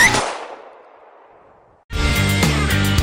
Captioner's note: gun fires; dramatic music